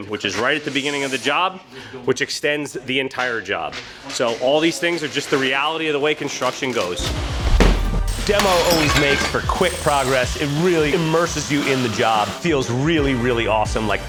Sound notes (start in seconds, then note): 7.8 objects clattering